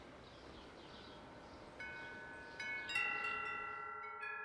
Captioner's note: wind chimes ring